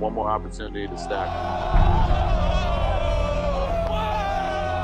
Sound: cheering

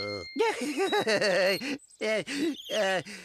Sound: laughing

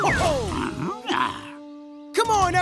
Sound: grunting

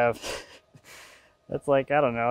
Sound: laughs

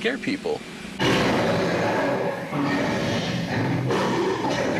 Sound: growls

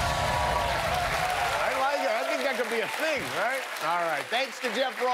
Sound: cheers and applause

